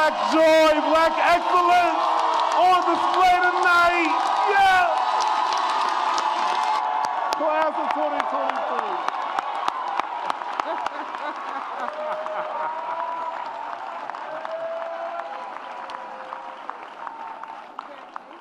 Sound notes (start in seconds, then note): 8.8 audience cheers and applauds